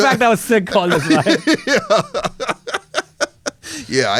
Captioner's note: laughs